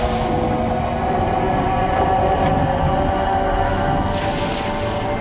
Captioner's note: power whirring building